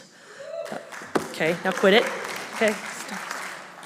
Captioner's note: audience applauding